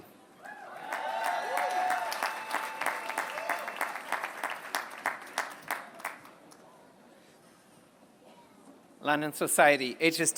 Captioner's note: applause